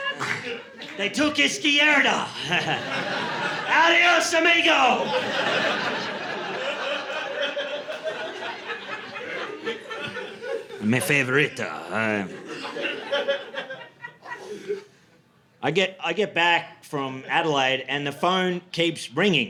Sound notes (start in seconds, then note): 5.9 audience laughing